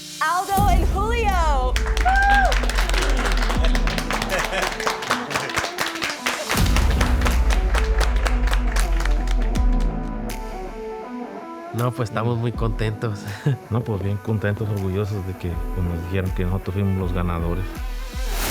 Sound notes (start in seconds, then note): 2.8 all applaud; 4.7 laughs; 9.3 light rock music